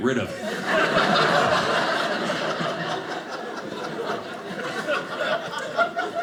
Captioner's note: audience laughing